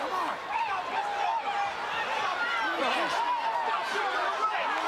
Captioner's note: crowd chattering